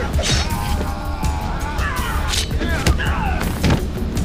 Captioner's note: Naga screams; thudding